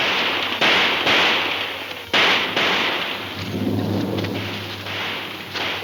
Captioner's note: gun firing